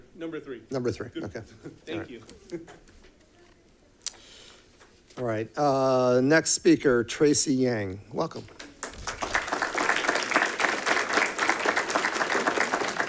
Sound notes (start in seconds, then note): 8.6 audience applauding